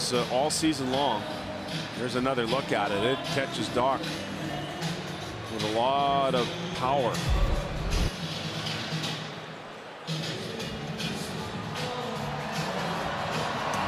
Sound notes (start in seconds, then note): 5.2 cheering and Applause